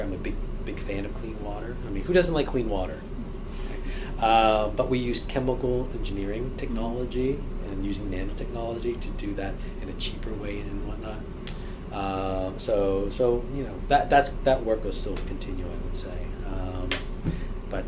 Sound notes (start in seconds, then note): 6.8 stammers